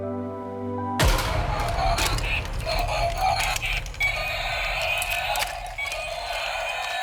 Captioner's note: dramatic musical score; toy roars